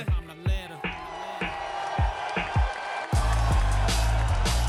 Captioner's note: audience cheers